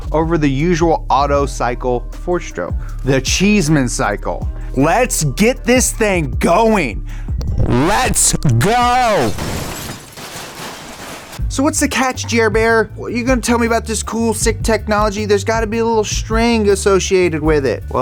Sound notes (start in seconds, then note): 8.6 tools crashing